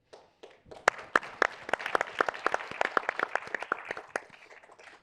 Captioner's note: audience applauding